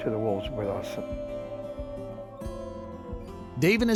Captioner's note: wolves howling